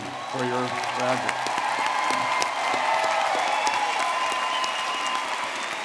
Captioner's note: audience clapping and cheering